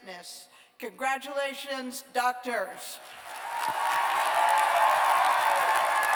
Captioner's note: cheers and applause